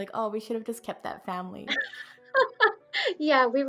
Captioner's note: laughs